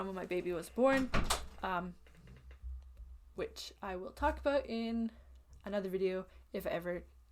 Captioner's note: door-closes